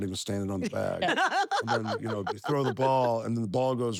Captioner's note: laugh